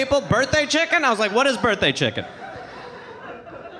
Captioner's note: audience laughing